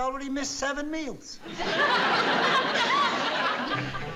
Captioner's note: audience laughing